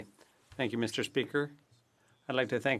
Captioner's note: speaking FRENCH